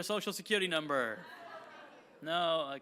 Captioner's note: audience laughing